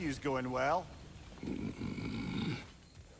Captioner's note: grunt